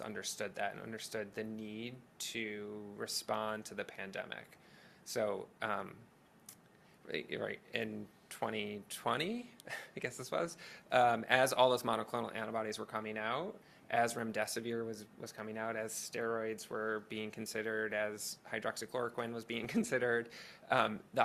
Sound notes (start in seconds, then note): none